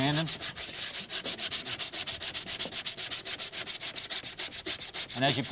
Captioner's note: metal scratching